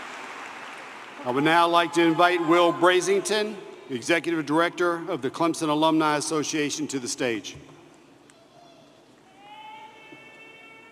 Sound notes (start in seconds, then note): 1.7 applause